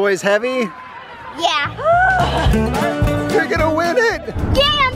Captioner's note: girl groans